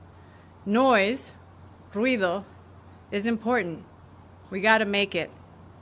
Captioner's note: speaking spanish